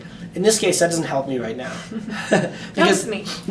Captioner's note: laughing